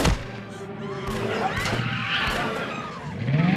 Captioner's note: gunshots continue firing; gunshot firing; prostitutes screaming; tires screeching; engine revs; prostitutes screaming